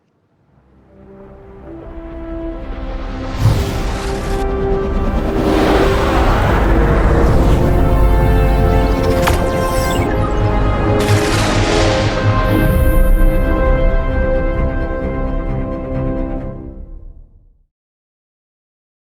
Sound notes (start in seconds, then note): 0.2 epic music; 3.2 space whooshes; 3.6 epic music continues; 11.0 stars fizzle; 14.4 epic music fades